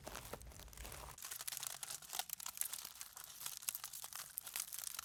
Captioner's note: foil crackling